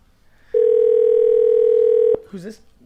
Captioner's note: phone rings